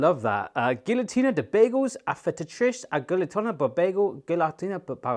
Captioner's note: speaking in foreign language